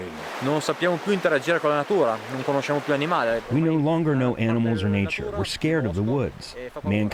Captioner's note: through translator